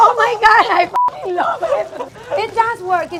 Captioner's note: beeping